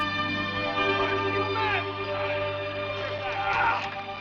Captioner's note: grunting